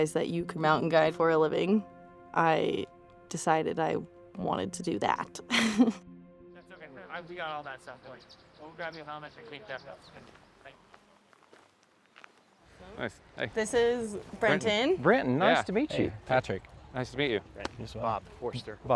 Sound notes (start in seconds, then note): 6.5 indistinct chatter